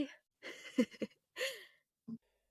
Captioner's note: laughs